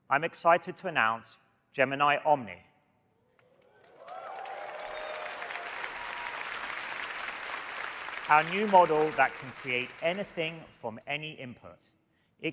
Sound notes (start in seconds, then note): 3.6 audience cheering and applauding